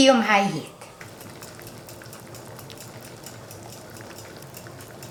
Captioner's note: clock ticking